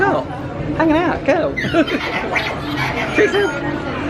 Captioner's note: laughs